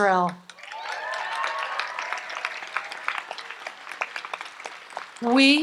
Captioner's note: audience applauds and cheers